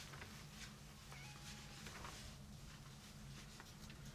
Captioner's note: cat meowing